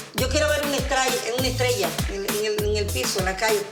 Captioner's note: speaking Spanish